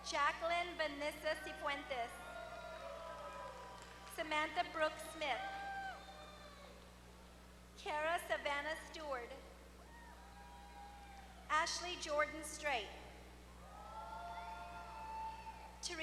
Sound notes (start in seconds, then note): 2.6 applause; 9.9 applause; 14.3 applause